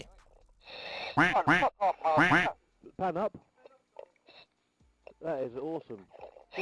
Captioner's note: duck quacking